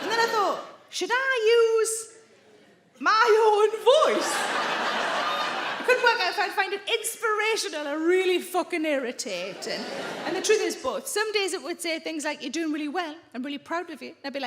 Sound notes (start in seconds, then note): 0.0 audience laughing; 4.0 audience laughing